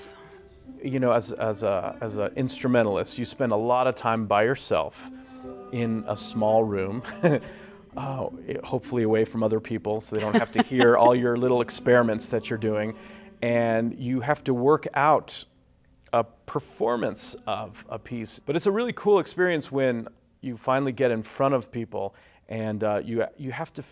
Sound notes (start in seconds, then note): 6.8 chuckles